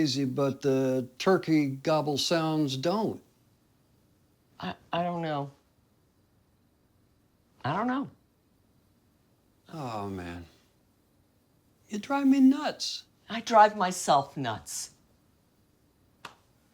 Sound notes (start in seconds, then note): none